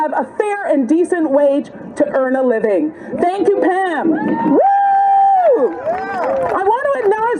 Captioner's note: cheers and applause